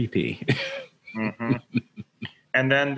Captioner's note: laughs lightly